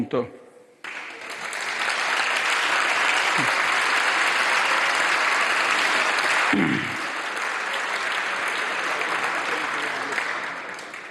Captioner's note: mega roar of applause